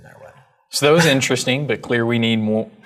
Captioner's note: laugh